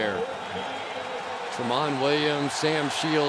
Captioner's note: pa announcement